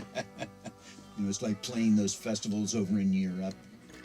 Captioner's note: laughter